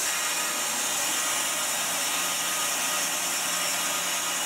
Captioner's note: saw whirring